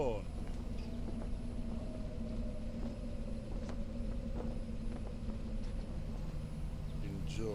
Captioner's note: eerie music; engine rumbling